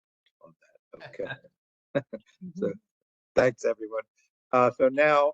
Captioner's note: laugh